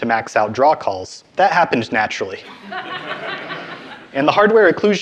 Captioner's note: audience laughing